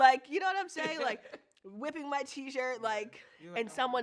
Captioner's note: laughs